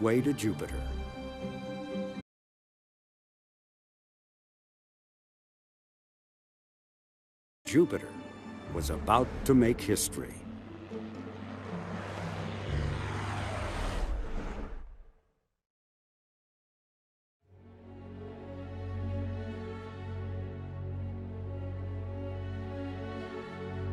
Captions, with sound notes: Then, it would finally be on its way to Jupiter. was about to make history. (vehicles whirring) (deliberative orchestral music)